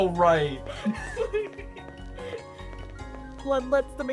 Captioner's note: idiots giggling